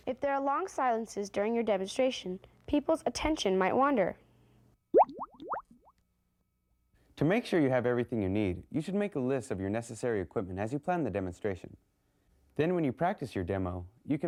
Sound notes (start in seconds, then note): 4.9 bubbles popping